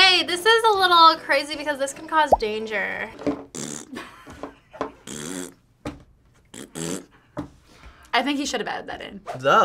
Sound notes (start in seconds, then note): 3.3 blows raspberries